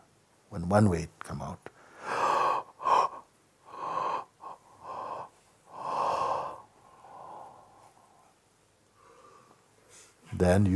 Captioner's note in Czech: zívnutí